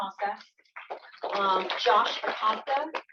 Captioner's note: applause